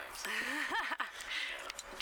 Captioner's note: laughs